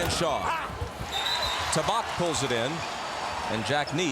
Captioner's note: whistle blows